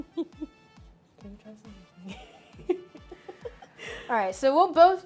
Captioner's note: laughs